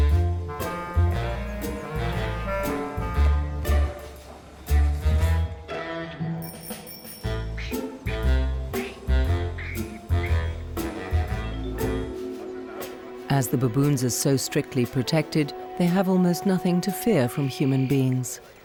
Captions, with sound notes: (bike bells ringing) (bright playful music) As the baboons are so strictly protected they have almost nothing to fear from human beings.